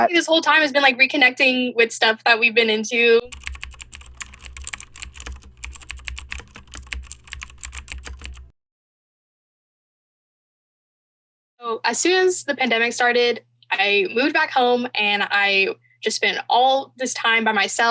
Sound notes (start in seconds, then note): 3.2 keyboard clicking